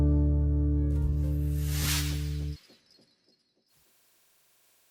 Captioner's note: sound effect